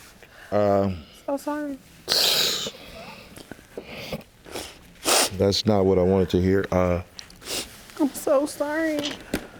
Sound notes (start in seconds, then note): 1.7 cries